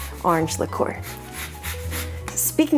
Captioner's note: grater scraping